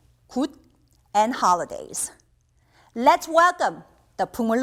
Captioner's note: speaking in Korean language